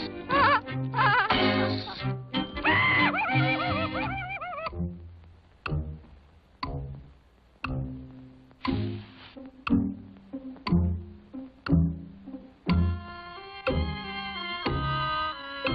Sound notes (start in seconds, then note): 0.1 laugh; 2.6 scream